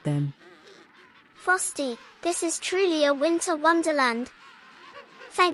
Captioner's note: penguins chirped